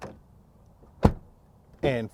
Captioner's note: car door slamming